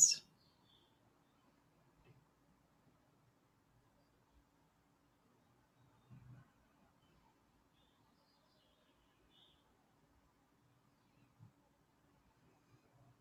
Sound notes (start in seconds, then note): 2.3 silence